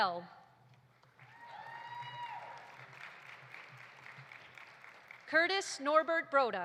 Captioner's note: audience applauding; audience cheering